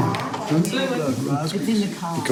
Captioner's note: family chattering